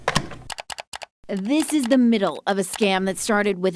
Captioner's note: keyboard clacking